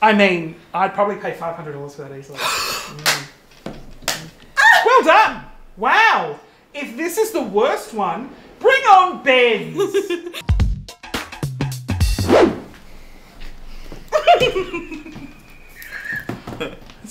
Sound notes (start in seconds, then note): 2.4 gasps; 2.4 claps; 4.6 exclaims; 9.7 giggles; 10.2 upbeat music; 14.1 Christian giggles; 14.2 Christian wheezes